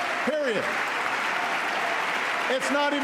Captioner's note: applause